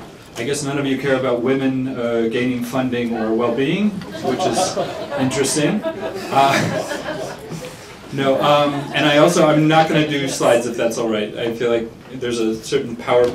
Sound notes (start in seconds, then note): 4.0 laughter